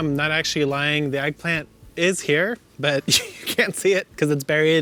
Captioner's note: laughing